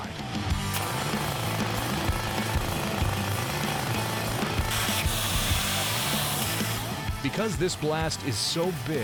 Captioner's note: drilling